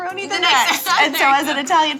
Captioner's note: laughs